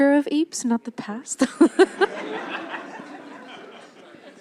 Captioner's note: laughter